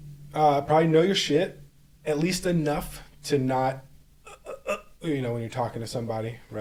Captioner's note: choking Sounds